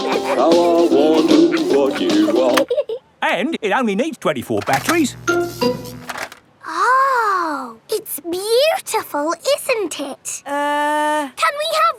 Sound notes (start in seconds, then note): 0.0 both giggling; 4.7 buzzing